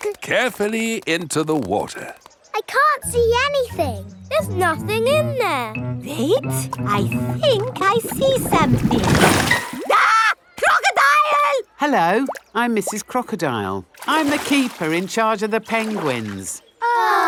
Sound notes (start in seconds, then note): 9.8 screams